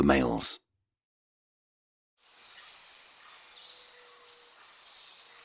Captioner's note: wildlife chirping